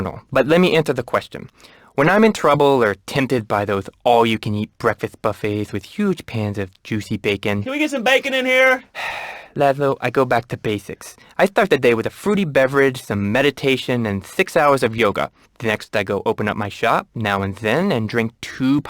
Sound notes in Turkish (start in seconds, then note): 8.8 iç çeker; 9.6 peltek konuşur